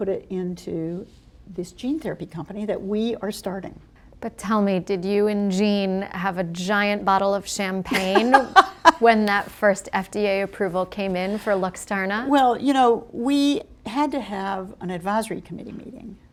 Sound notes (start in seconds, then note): 7.9 laughter